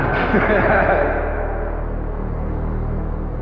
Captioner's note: laughs; tense music